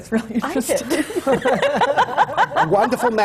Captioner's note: laughter; laughs